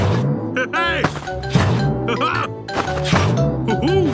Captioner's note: laughs